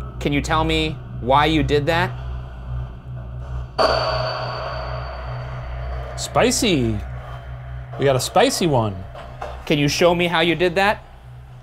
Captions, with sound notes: Can you tell me why you did that? (Honey tone buzzes) - Spicy, we got a spicy one. - Can you show me how you did that?